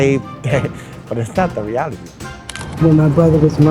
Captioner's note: laughing